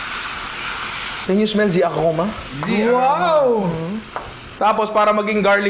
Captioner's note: speaks in another language